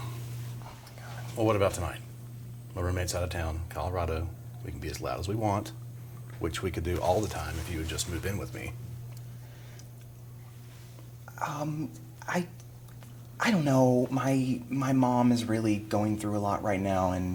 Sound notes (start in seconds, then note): none